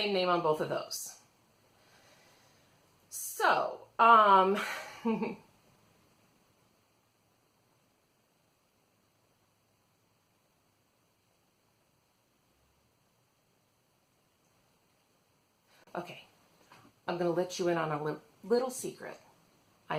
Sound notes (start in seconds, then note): 4.6 long pause